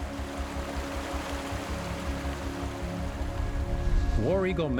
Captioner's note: water rushing